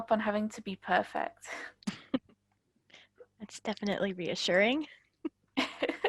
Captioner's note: laughing